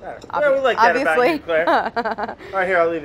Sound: laughs

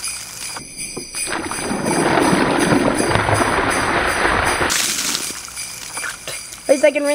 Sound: bells jingling; splashing; bells jingling; splashing

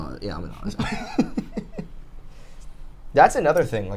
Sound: laughs

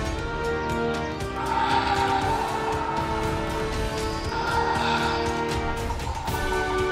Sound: Baryonyx roars

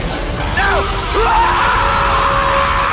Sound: screams

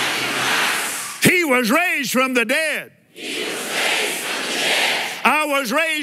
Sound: audience repeats

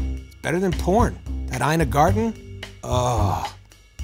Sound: wistfully

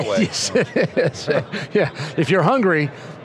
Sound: laughing

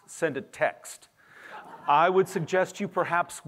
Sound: laughter

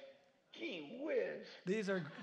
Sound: laughter

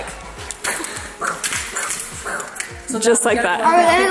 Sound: imitating throwing sounds

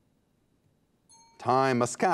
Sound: timer dings

